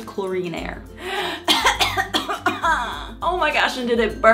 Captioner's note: coughing